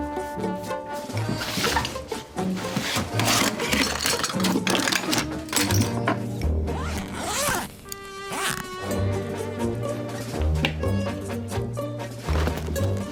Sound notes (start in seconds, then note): 0.1 quirky music; 6.7 unzipping suitcase; 9.2 quirky music